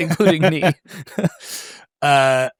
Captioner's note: laughs